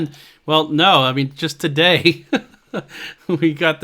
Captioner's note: laughs